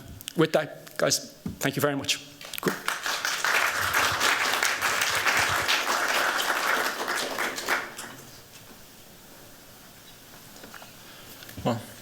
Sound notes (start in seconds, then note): 2.4 applause